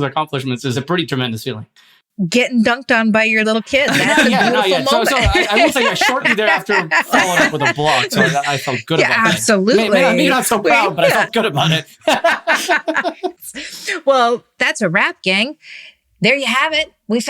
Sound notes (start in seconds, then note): 5.5 laughing; 12.5 laughing